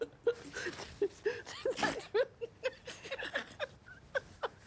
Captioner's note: both laughing